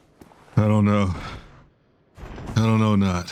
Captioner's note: catching Breath